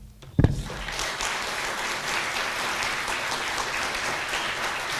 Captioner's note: applause